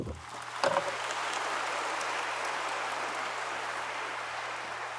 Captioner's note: audience applauds